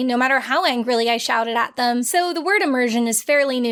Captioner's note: none